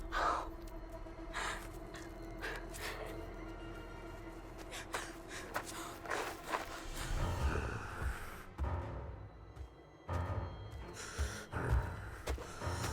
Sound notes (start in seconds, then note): 0.0 Hailey panting; 0.3 tense music; 5.4 gravel crunching; 7.7 killer growling; 10.2 tense music